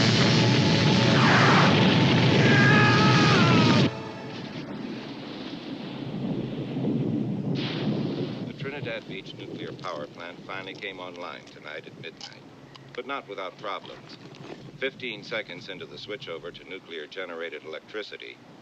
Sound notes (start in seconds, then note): 2.3 Lew screams; 4.1 thunder cracks and rumbles